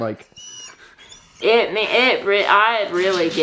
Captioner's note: Dolly whines